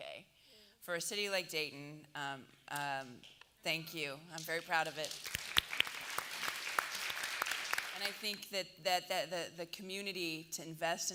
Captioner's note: applause